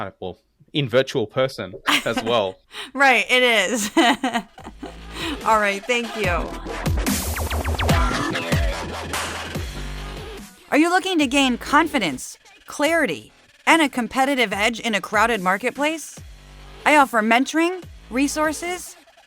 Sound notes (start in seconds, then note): 6.7 laugh